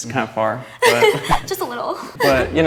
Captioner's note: giggles